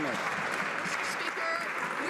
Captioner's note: some Applause